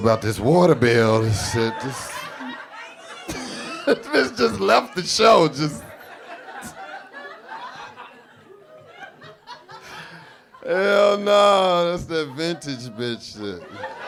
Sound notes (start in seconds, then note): 2.0 audience laughing; 3.5 laughs